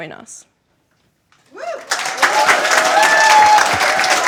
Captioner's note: cheering and Applause